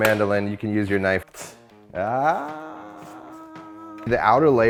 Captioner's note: gasps